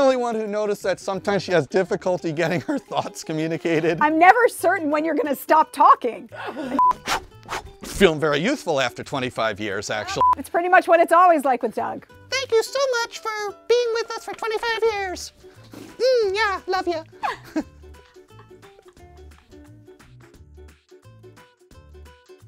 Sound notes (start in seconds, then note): 6.3 laughter; 6.8 beep; 10.2 beep; 17.1 laughs; 19.0 upbeat ukulele music